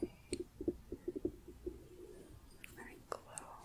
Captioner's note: tapping